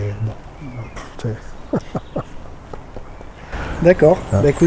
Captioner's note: laughs